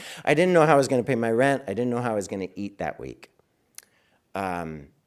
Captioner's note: none